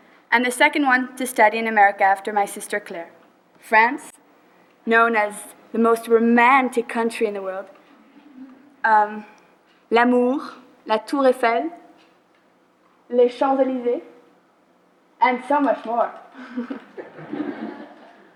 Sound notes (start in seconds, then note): 9.9 speaking French; 16.4 laughter